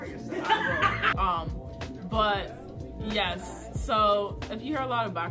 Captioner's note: laughter